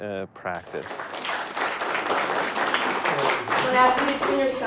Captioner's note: applause